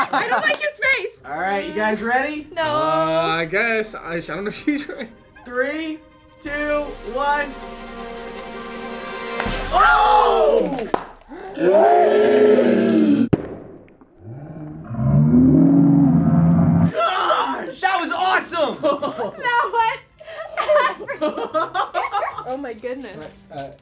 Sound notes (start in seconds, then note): 0.0 laughs; 10.9 egg pops; 20.2 laughs; 20.2 chuckles